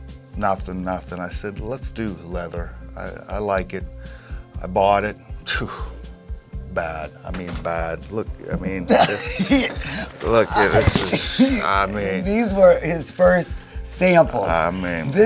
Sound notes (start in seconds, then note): 5.4 sighs; 8.3 laughs